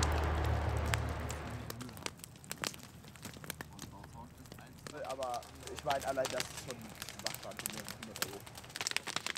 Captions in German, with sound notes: *Feuerknistern* Aber ich meine allein das ist schon machbar für die 100 Euro.